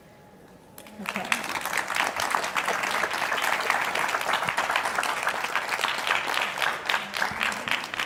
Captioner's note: audience applause